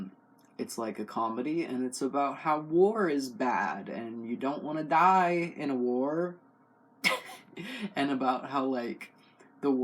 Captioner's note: laugh